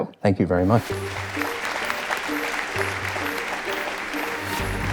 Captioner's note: audience applauds